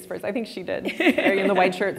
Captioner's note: laughing